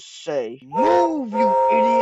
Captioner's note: Gordon's Whistle Blows